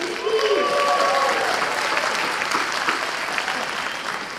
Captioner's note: applause